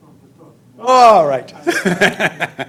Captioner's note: laughs